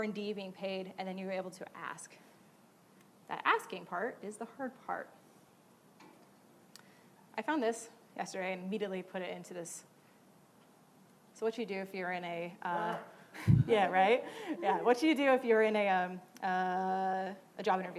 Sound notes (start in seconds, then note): 12.2 laughing audience member